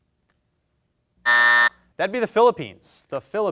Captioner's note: buzzer sounds